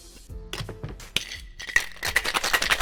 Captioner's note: thuds; ice clinks